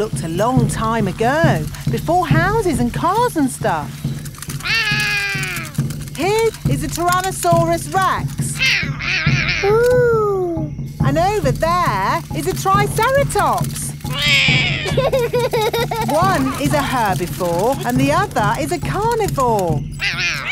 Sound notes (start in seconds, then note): 4.6 roaring; 9.0 roaring; 14.0 roars; 14.1 laughs